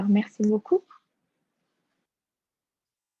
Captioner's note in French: silence